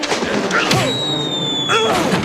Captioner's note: grunting